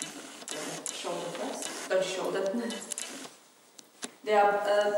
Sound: laughing

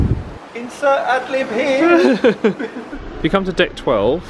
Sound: they laugh

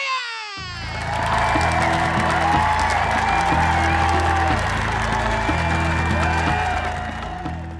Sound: cheer/applause

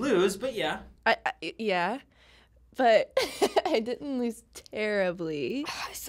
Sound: stammering

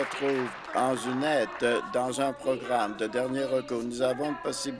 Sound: applause

